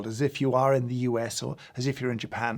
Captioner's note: none